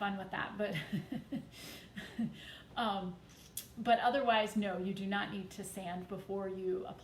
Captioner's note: chuckles